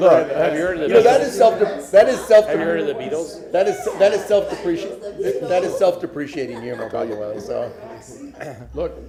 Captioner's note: laughter